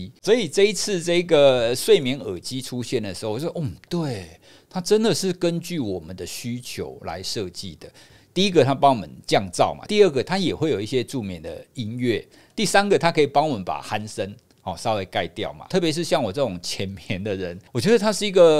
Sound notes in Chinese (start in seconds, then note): 11.7 和白噪音